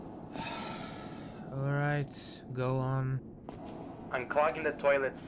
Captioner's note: sighs